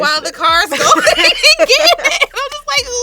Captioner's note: both laughing